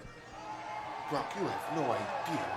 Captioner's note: audience cheering